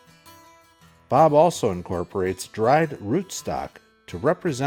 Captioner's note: voiceover